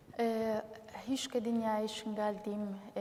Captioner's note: speaking kurdish